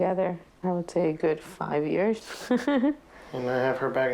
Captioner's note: laughs